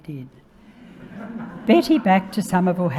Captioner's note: audience laughing